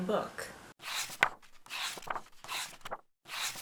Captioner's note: pages turning